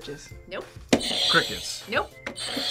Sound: buzzer rings

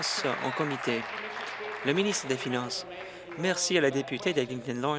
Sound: applause

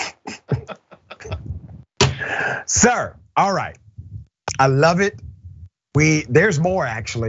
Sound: laugh

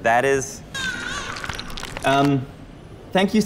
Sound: baby crying

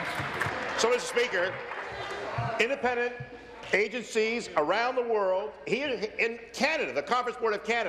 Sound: applause

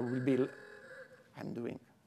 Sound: alarm rings

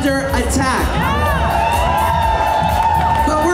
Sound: audience noise

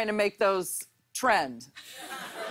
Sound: laughter

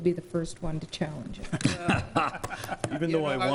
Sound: laughing

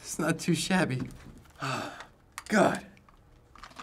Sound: sighs

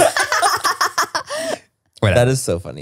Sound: everyone laughs

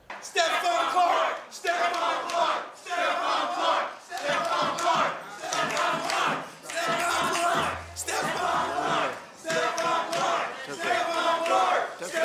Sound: chants Stephon Clark

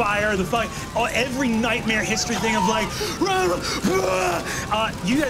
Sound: shouting

